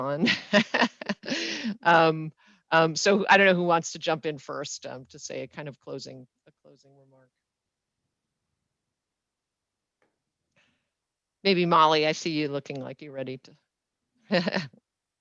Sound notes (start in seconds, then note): 0.3 laughs